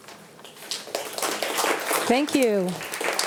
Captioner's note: audience applauding